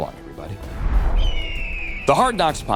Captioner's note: bird screeches